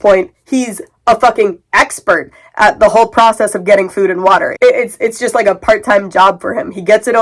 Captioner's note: stammering